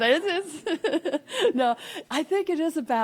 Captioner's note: laughing